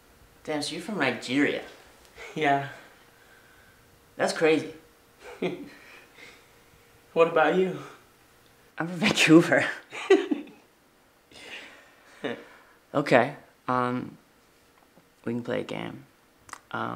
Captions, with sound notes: - Damn, so you're from Nigeria. - Yeah. - That's crazy. - What about you? - I'm from Vancouver. (Leo laughing) Okay. We can play a game,